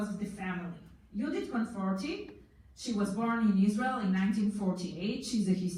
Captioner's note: foreign language